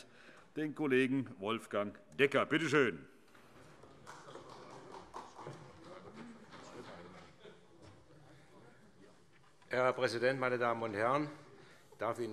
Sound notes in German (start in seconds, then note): 3.8 Beifall